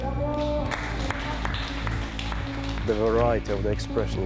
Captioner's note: applause